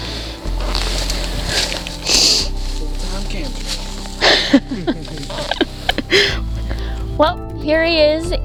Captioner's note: joyous laughter